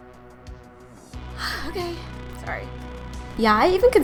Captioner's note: sighs